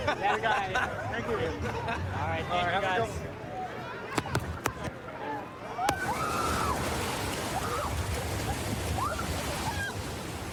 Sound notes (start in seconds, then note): 6.0 excited screaming